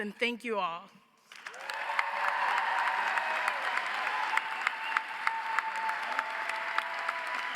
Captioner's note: audience applauds; audience cheers